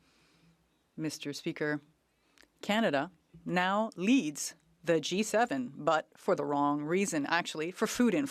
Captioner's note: speaking French